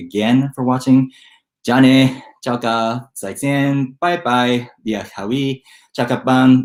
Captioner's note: speaking in foreign language